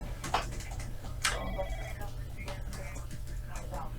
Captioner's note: sound of typing, phone ringing